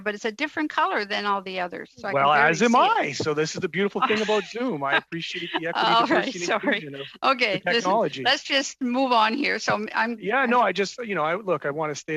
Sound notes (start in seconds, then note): 8.5 laughter